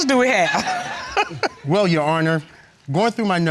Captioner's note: chuckles